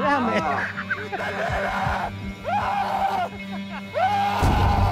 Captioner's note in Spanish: Carcajada; Gritos